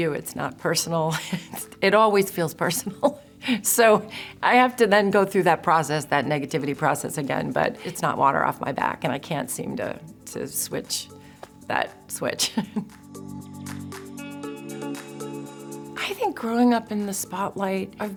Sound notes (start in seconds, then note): 3.0 chuckles; 12.4 chuckles; 12.8 slow jazz music